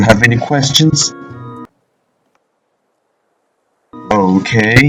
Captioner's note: silence